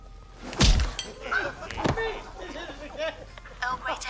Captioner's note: laughter